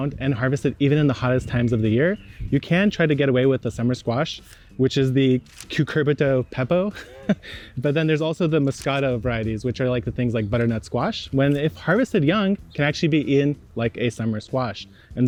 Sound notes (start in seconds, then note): 6.8 chuckles